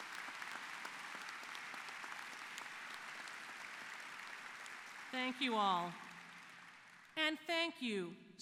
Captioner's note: applause